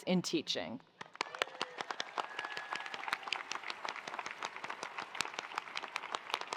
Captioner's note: attendees applauding; attendees cheering